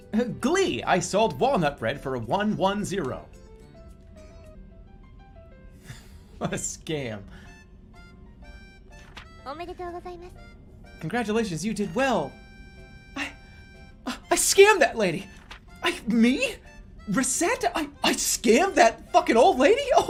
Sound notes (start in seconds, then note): 5.7 laughing; 13.1 distraught voice